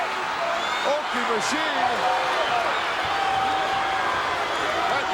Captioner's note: audience cheering